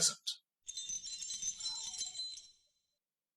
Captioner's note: chimes